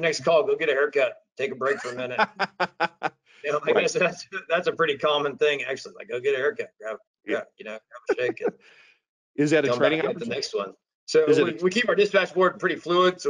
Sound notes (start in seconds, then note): 1.5 laughing